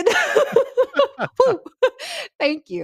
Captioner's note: laughs loudly